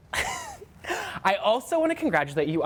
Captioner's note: laughter